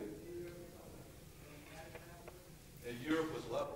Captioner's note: speaking faintly